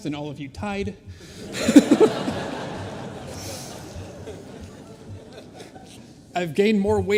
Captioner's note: laughter